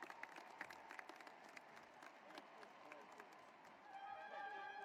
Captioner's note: cheering and applause